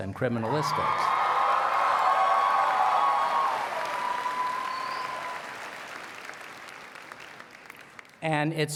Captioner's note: cheers and Applause